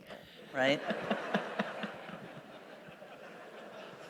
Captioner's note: laughter